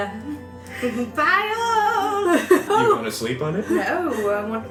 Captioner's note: laughs